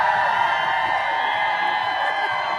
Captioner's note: applause